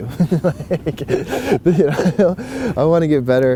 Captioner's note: laughs